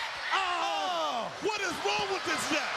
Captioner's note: announcers exclaim